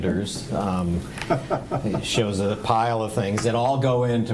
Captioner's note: laughing